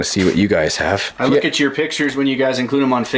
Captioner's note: voiceover